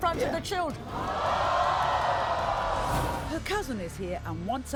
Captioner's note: crowd yelling